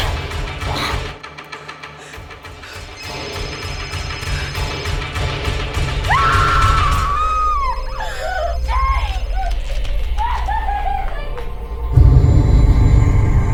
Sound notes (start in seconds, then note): 7.8 screaming; 13.3 ominous music